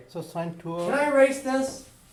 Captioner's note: voiceover